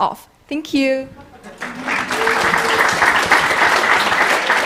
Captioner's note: applause